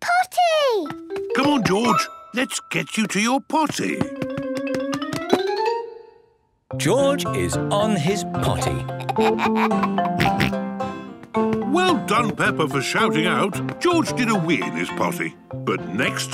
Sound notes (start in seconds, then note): 9.0 giggles, snorts